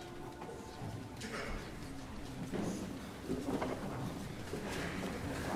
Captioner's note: voices murmuring